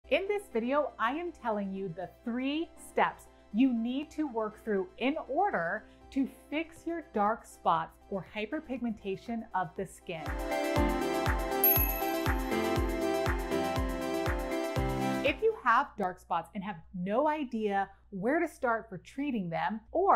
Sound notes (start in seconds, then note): 10.0 upbeat music; 11.6 bell dinging